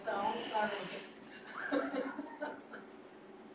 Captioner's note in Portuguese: risos